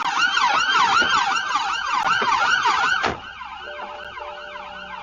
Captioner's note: car door opens and closes